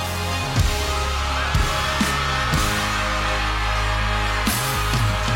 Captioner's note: crowd cheering